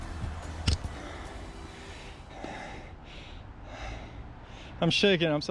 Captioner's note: breathing heavily